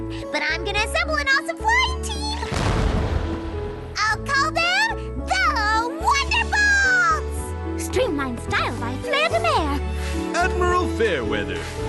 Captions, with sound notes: But I'm gonna assemble an awesome flying team. (boom) I'll call them the Wonderbolts. Streamlined style by Flaire de Mare. Admiral Fair Weather.